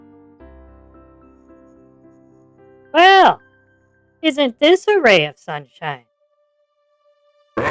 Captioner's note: sarcastically